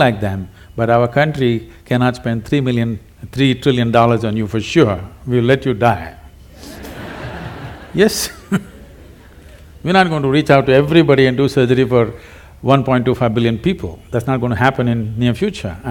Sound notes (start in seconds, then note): 6.6 laughter